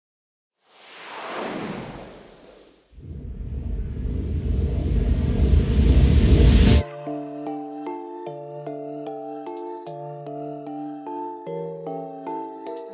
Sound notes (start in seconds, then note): 0.7 logo swooshes; 6.8 upbeat music